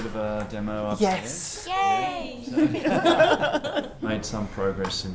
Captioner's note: several voices